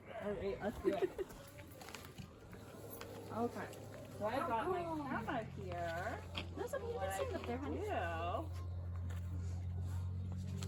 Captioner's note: indistinct chatter